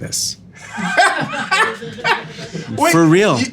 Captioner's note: laughing